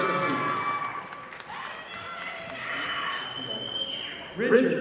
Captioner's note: audience applauding